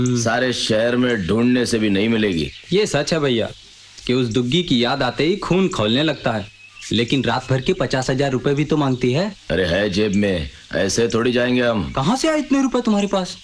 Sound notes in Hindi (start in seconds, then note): none